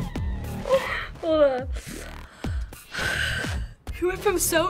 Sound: wheezing; takes deep breath

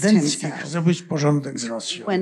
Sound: foreign language

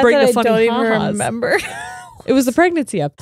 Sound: laughs

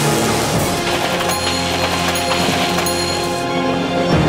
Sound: dinging

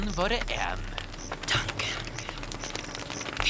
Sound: whispering

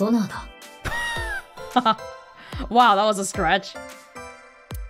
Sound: chuckles

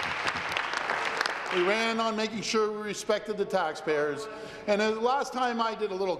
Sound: applause

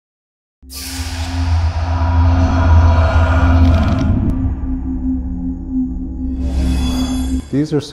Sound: sound Effects

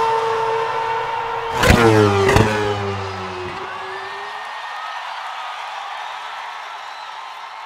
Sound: engine noise

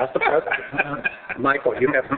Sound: laughing

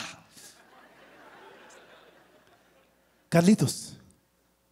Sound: laughter

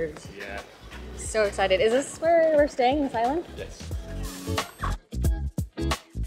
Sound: excited noises

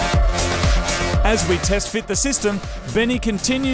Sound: voiceover

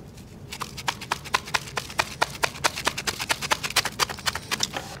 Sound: rice roll shaker shaking

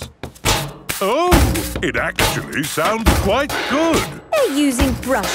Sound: rhythmic clanging

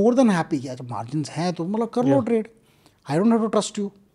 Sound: speaks in Hindi

